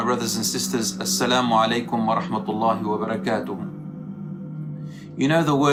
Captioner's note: Arabic